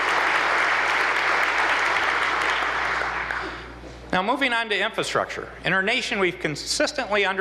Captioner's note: applause